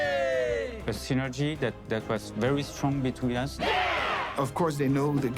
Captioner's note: all shout